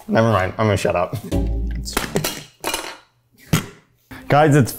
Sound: clattering

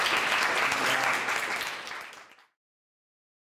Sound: applause

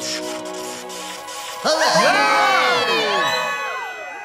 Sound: cheering

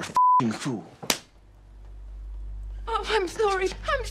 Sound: beeps; hand slapping

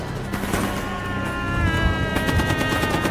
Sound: man screaming

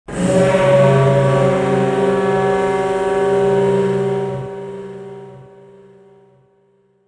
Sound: RMS Titanic Steam Whistle Sound Effect

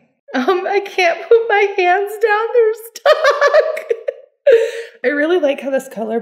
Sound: laughs

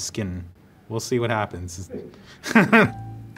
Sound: laughs

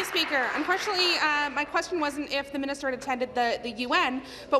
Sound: applause

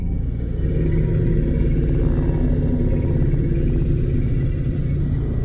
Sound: mammoth Bellows

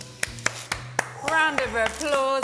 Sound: claps hands

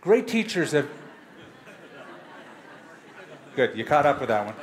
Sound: laughter

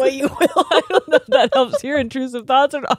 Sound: both laughing

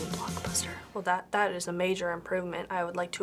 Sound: sarcastically

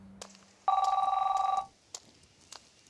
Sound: phone rings

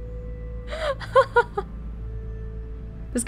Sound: chuckles

